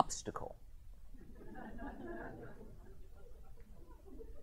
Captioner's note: chuckling